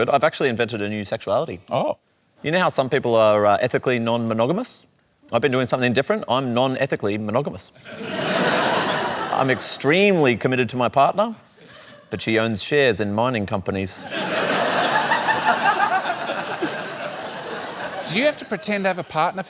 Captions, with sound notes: I've actually invented a new sexuality. Oh. You know how some people are ethically non-monogamous? I've been doing something different. I'm non-ethically monogamous. (LAUGHTER) I'm extremely committed to my partner. But she owns shares in mining companies. (LAUGHTER) Do you have to pretend to have a partner for that bit?